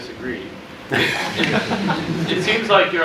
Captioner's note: laughter